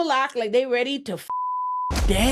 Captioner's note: beep